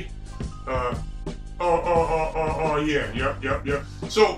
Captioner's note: stutters